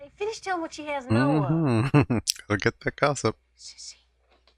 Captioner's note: chuckling